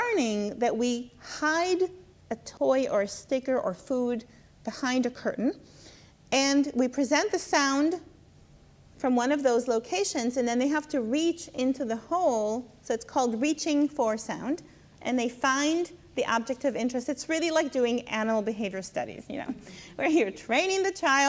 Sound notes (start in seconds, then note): 19.5 laughs